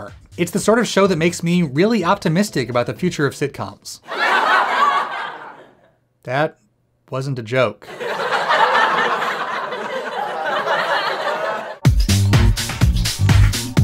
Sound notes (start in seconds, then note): 4.0 laugh track; 7.8 laugh track; 11.8 outro music